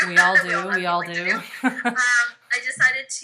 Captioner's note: laughs